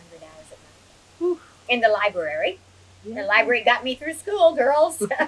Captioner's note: laughs